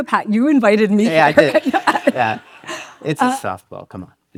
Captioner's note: laughs